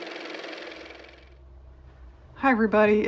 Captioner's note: car motor